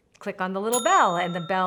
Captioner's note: bell dinging